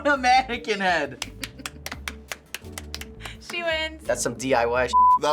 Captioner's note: claps; chuckles